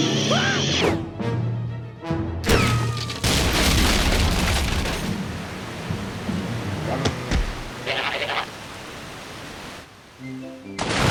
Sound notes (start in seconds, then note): 2.1 ricochet whistles; 2.6 decks crashing; 4.5 water bubbling